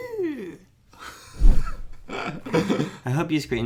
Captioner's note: laughing